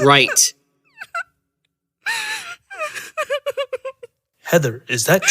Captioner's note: Heather begins to cry